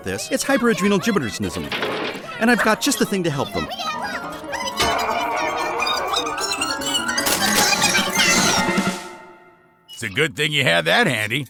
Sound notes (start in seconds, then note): 3.4 high-pitched gibberish